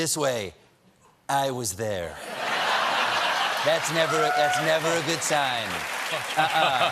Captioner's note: laughter